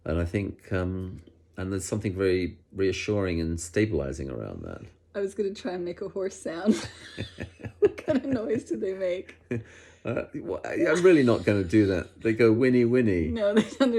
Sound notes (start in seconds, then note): 6.6 both laugh